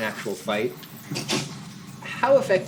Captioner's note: scoffs